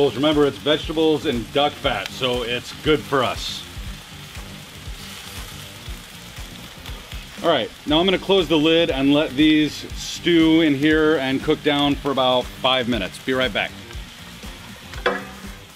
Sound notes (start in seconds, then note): 3.7 pan simmering